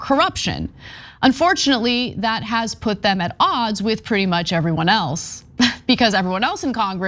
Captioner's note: laugh